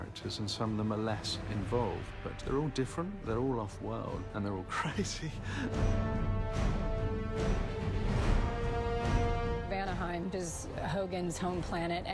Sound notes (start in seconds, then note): 4.8 chuckling